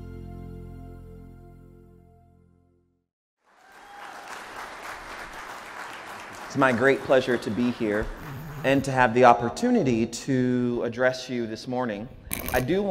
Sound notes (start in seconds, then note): 3.4 audience applauding